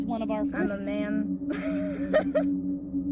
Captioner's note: laughing